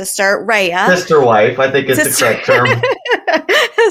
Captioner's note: laughter